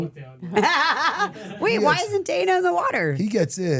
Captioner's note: laughs